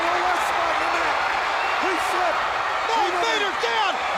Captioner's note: crowd cheering